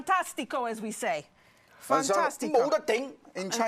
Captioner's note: speaking Chinese